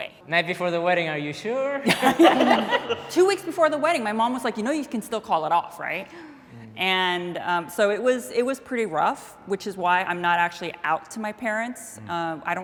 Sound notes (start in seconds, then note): 1.8 people laughing